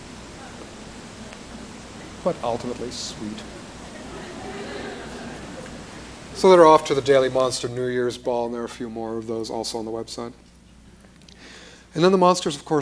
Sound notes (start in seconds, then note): 3.4 laughter